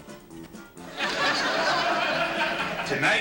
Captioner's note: laughter